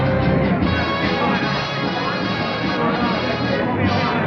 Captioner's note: chattering